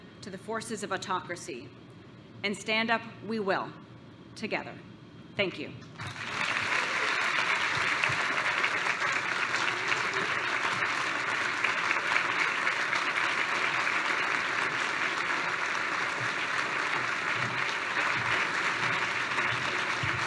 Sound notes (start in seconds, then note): 6.4 applause